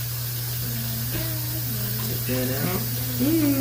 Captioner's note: humming Jeopardy theme song